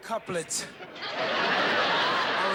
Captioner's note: laughter